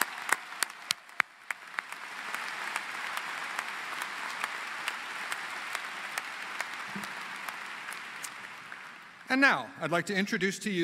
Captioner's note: applause